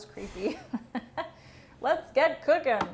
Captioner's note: laughs